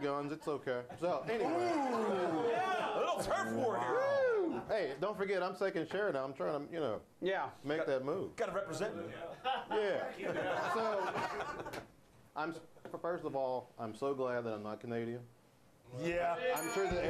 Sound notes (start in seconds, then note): 9.4 laughter; 16.5 bell rings